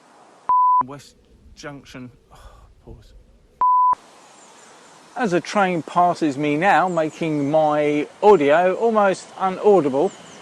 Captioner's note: exhales